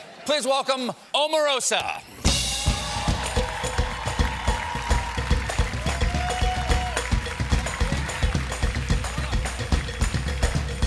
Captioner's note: applause